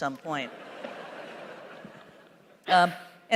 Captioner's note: laughter